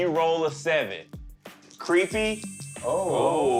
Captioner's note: beeping